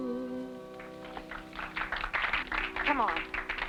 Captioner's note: audience clapping